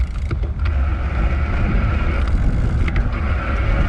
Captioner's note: wheel pattering